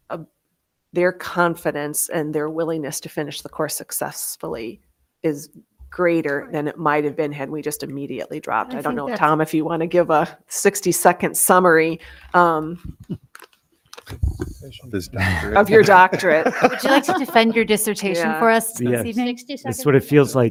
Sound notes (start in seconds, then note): 14.8 speaking faintly; 16.5 members laughing